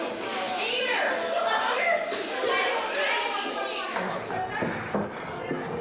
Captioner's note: chatter